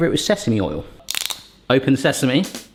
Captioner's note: bottle opening